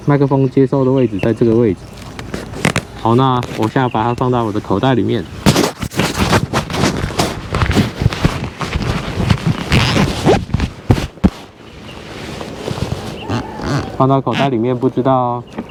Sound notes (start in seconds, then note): 5.4 rubbing sound; 5.4 zip sound